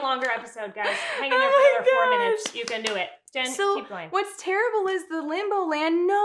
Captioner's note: clapping